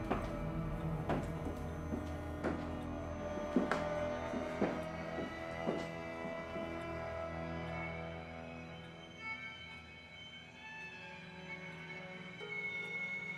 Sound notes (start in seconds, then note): 1.2 boots tapping; 9.4 foreboding string music